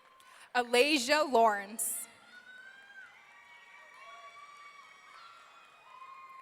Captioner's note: audience cheering